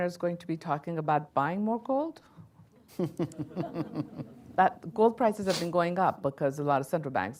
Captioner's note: laughter